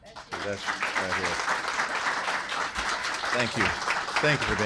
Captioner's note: applause